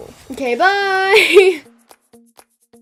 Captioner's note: laughs